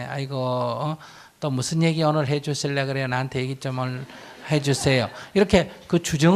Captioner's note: audience Laughter